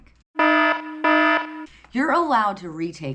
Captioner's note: siren notification sounds